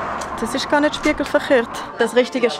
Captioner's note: Scheizerdeutsch